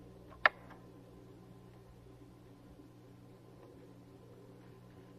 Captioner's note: light switch clicking